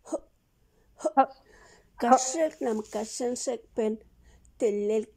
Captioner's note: speaks in a foreign language